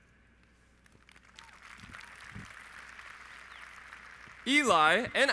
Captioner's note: audience applauds